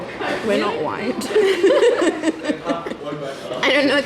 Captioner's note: both laughs happily